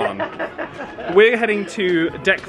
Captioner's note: laughing